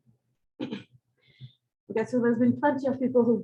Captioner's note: clears throat